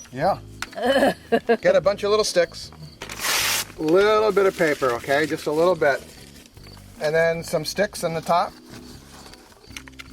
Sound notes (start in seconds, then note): 0.7 camerawoman laughing; 3.0 tearing sound